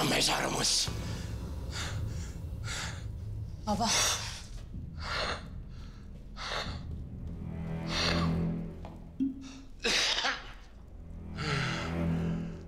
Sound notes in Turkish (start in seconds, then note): 0.9 Nefes sesi; 5.1 Nefes sesi; 9.6 Umur öksürme sesi; 9.7 Nefes sesi